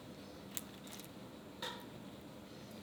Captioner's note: none